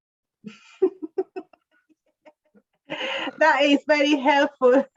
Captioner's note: laughs